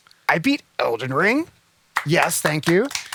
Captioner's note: applause